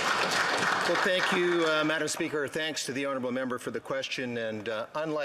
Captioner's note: some Applause